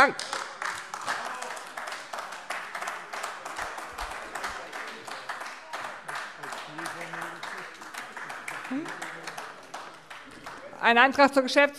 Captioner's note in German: Beifall AfD